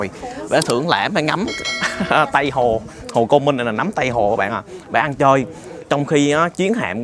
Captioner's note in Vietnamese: tiếng cười